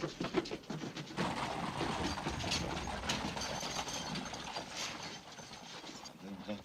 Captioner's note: carriage rattling away